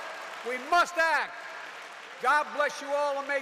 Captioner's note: applause